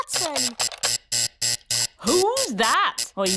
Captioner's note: alarm buzzes